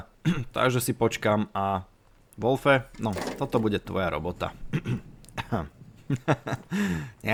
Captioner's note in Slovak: odkašľanie; smiech